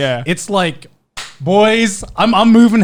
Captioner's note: clapping